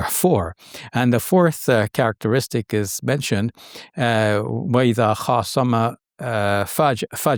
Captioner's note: speaks Arabic